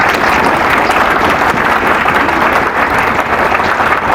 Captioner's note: applause